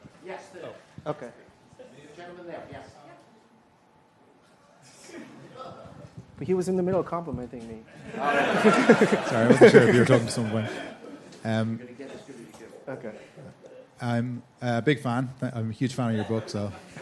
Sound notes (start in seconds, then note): 7.9 laughter